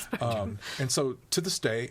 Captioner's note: laughs